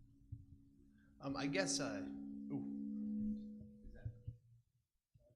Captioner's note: feedback echoing